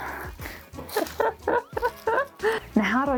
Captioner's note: cries